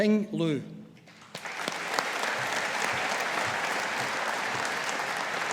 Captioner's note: audience applauding